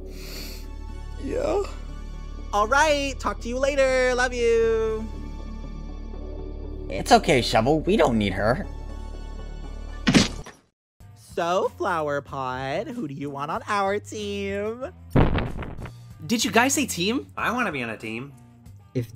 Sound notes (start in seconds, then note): 0.1 sniffle; 10.0 thud; 15.1 thud